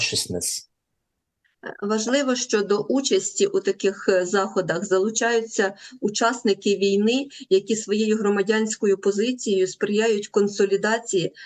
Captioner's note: foreign language